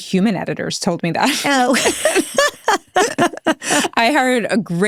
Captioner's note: people laughing